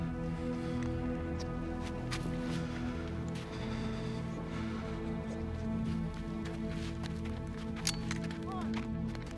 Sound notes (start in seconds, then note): 7.7 gun cocks